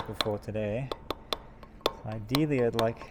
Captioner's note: metal hammering